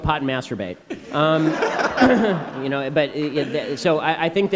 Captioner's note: laughter